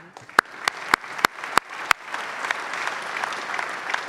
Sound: clapping

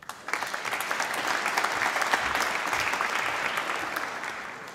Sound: applause

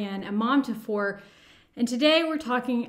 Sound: breaths heavily

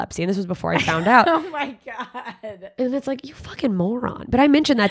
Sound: laughing

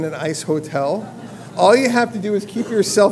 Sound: laugh

